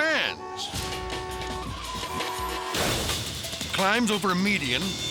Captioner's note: horns honking